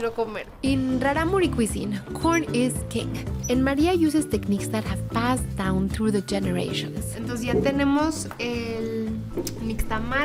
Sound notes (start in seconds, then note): 6.5 speaking Spanish